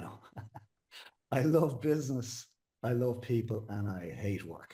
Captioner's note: laughs